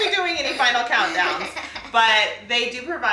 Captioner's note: laughs